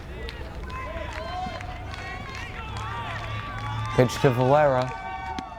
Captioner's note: crowd cheers and applauds